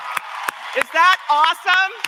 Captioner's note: applause; cheering